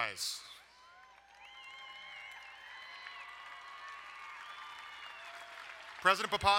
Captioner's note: crowd cheering and applauding